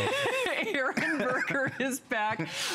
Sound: laughter

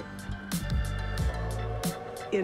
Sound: horn blowing

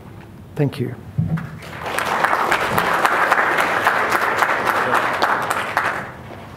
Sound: applause

